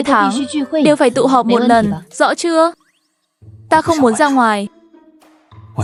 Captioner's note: none